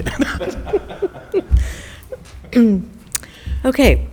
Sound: the board laughing

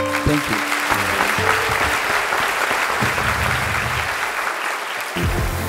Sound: applause

